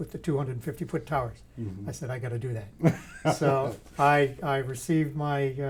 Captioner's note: laughter